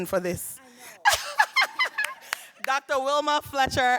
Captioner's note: laughing